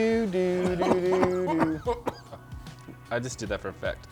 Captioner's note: coughs